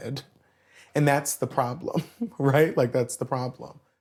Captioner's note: chuckles